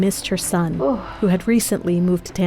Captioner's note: sigh